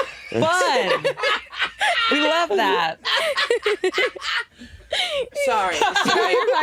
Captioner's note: Jinkx laughing